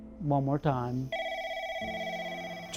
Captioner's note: phone rings